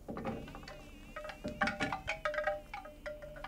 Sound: door creaks

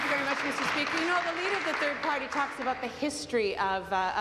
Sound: applause

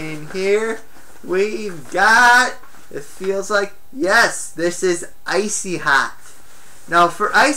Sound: items rattle around in bag

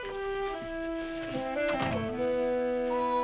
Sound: door closes

